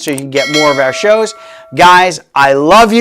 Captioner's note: bell ringing